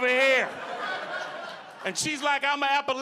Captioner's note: audience laughing